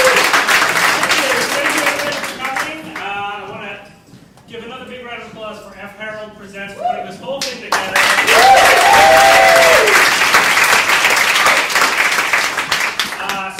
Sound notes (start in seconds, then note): 7.7 audience applauding